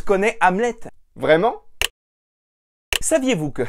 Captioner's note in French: Clics